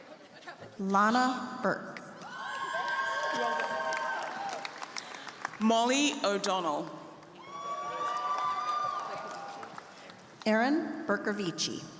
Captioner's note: applause